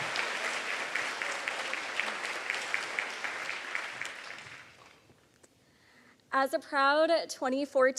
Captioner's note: applause